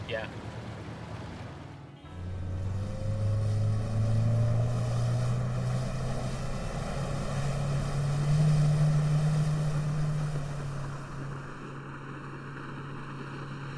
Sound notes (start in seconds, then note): 2.2 engine hums